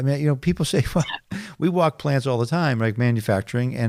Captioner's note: chuckling